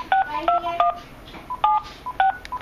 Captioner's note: dial tone and dialing noises; dialing noises